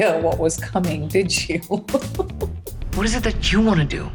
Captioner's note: laughing